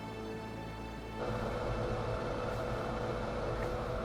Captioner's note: fan running